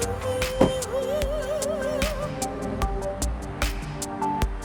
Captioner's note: car door slams